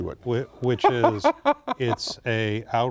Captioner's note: laughter